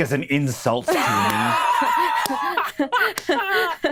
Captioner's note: all laughing